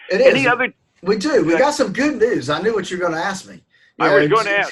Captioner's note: laughs